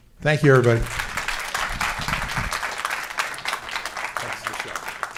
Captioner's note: applauding